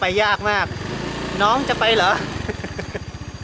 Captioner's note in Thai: หัวเราะ